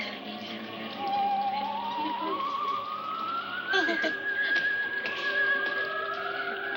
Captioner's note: women muttering